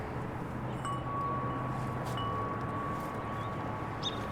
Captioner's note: chimes ring